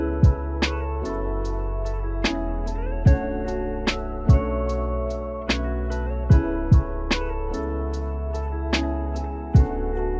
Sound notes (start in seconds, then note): none